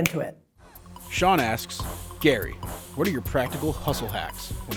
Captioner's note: voiceover